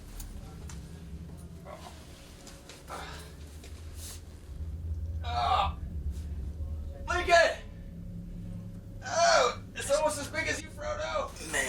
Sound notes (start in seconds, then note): 3.6 gruñidos